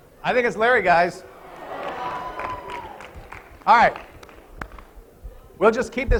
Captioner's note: applause